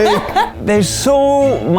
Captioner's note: laughs